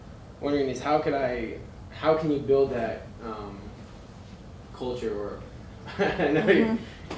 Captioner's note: laughing